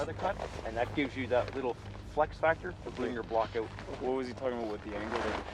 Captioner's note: voiceover